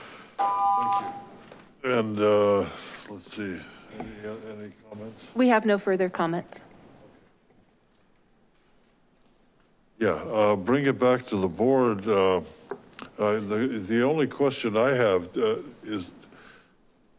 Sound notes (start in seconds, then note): 0.4 beeping